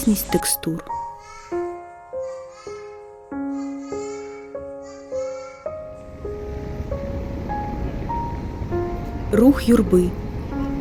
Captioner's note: child's shouting, crowd noise